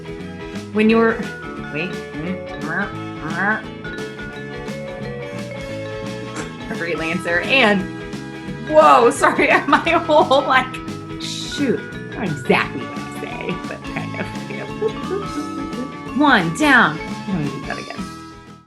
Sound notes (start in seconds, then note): 3.1 croaking; 9.0 laughing